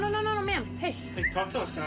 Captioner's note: whistles